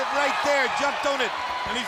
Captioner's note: crowd cheering